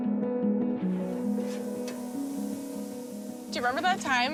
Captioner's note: food sizzles